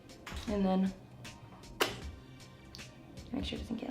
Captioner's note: smacks lips